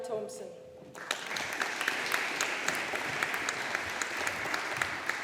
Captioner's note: audience applauding